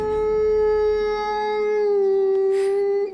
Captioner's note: howling